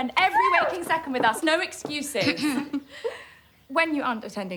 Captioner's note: girl clears throat